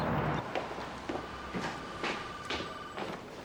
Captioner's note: phone ringing